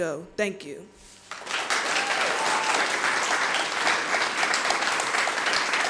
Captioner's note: audience applauding